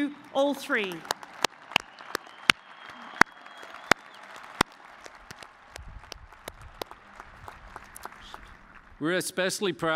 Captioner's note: cheers and applause